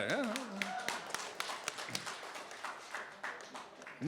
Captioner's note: cheering, applause